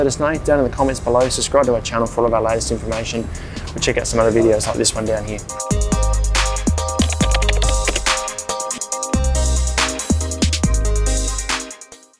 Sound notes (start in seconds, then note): 5.6 upbeat music; 6.6 keyboard clacking